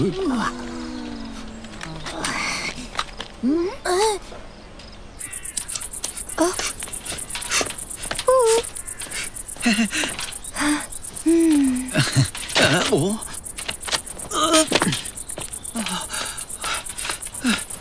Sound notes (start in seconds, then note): 0.0 people murmuring; 6.4 woman murmuring; 11.2 woman cooing; 11.2 man chuckles; 14.3 man groans